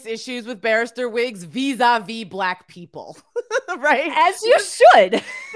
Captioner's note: laughs